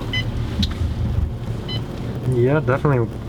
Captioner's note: machine beeping